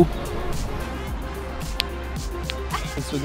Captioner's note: balls clacking